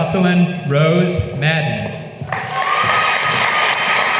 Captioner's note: applause